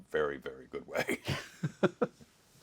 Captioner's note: Wil laughing